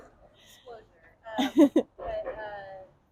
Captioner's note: laughs